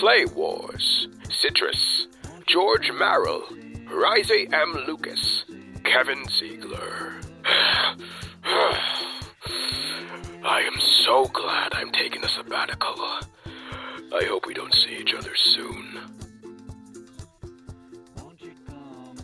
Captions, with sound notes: *groaning* I am so glad I'm taking a sabbatical. I hope we don't see each other soon.